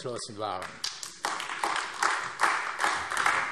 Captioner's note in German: Beifall AfD